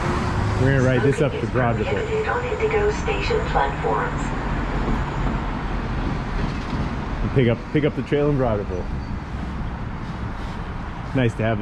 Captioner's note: chuckles